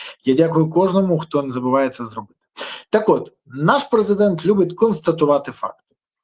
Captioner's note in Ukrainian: сопіння